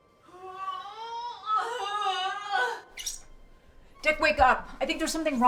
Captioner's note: groaning